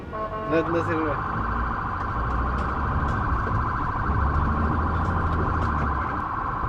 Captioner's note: ambulance sound